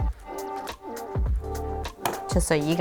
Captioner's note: clicking